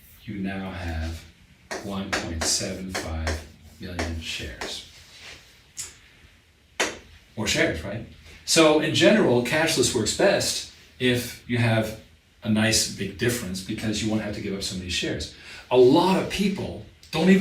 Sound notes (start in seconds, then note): 6.8 marker pen taps